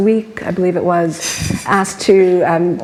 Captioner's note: laughs